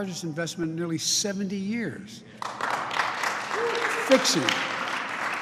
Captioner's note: applause